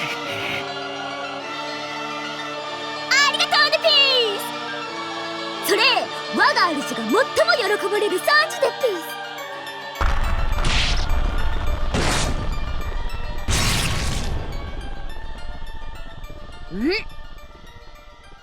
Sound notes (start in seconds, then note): 10.0 crack; 10.0 urk; 10.0 whoosh